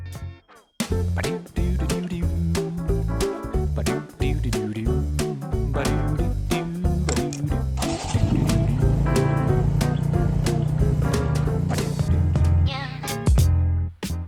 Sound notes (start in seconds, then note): 0.9 ragtime music; 7.8 bike engine starting; 12.4 chill music